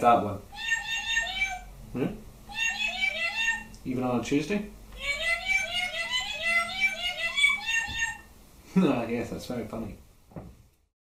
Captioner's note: laugh